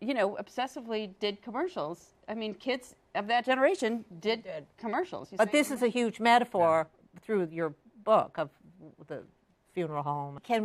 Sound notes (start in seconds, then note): none